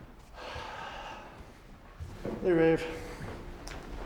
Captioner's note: sighs